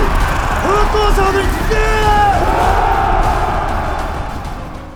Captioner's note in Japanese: 叫び声